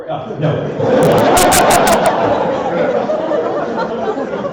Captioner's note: laughter